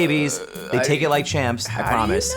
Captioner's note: groaning